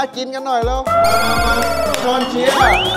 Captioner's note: cheering